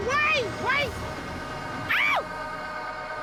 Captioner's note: shrieks